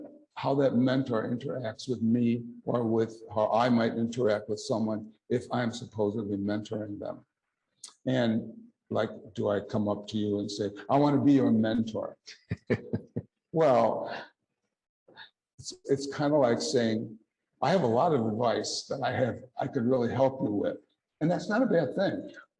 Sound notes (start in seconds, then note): 12.3 chuckle